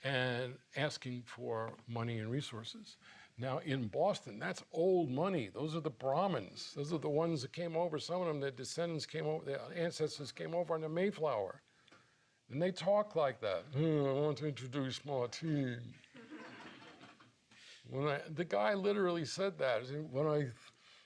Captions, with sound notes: and asking for money and resources. Now, in Boston, that's old money. Those are the Brahmins. Those are the ones that came over. Some of them, their ancestors came over on the Mayflower. And they talk like that. "I want to introduce Martín." [audience laughing] The guy literally said that. "When I